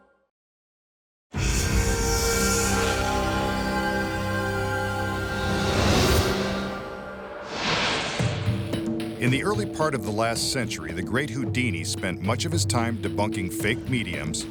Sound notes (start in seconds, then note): 0.9 dramatic instrumental music; 7.4 light beam swishing